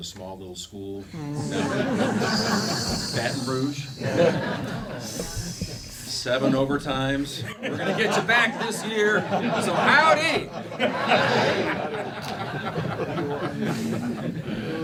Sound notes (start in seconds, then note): 2.1 laughing; 6.8 laughing; 9.5 laughing; 11.5 whole room laughing